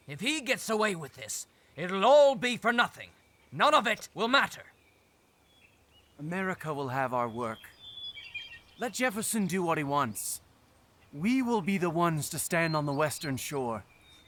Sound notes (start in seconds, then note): none